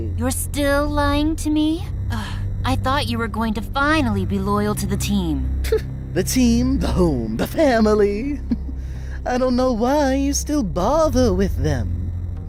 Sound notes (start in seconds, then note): 8.4 chortles